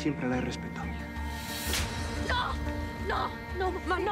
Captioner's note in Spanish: bofetada